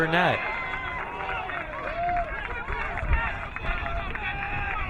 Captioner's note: crowd cheering